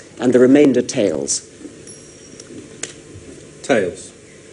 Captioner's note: coin spinning